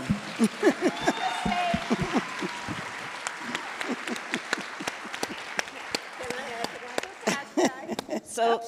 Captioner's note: applause